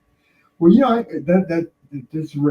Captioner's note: laughing